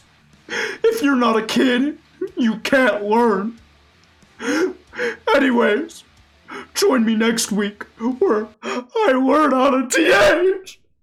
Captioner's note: sobs